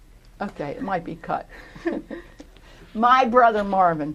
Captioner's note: laughter